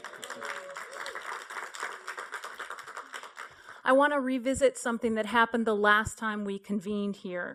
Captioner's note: applause